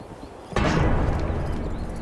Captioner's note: horse galloping